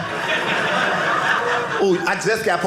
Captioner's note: audience laughing